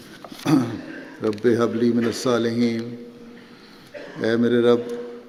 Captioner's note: Arabic